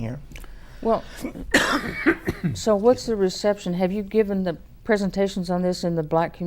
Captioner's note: coughs